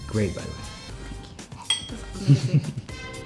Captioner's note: glass clinking